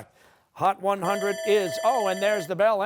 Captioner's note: bell rings